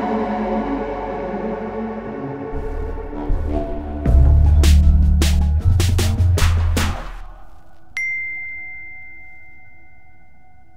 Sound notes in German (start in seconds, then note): 3.8 Dröhnende Musik; 7.9 Klingeln